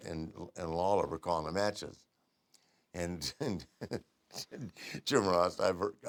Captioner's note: laugh